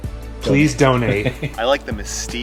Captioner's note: laughs